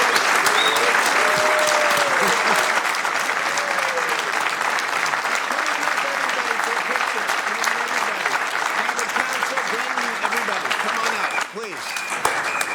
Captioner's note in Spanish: aplausos